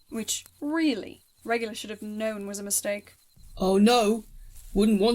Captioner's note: none